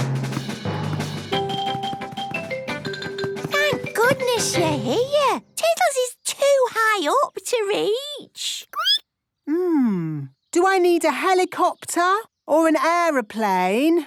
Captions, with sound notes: (rapid music) - Thank goodness you're here! Tiddles is too high up to reach! (squeaking) - Mmm... do I need a helicopter, or an aeroplane or...